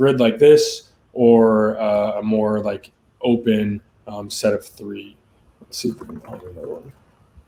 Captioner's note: conversing quietly